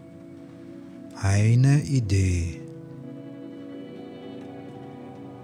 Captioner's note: german